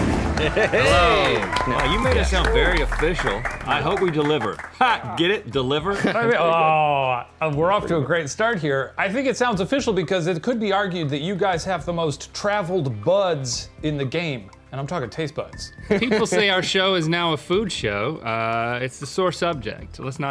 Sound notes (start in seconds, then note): 0.1 audience clapping; 0.4 laughing; 5.7 chuckles; 15.8 laughing